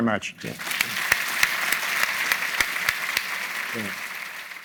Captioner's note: everyone applauding